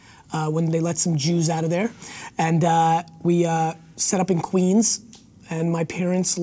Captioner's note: none